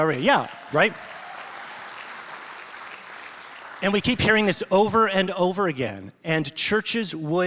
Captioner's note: congregation applauds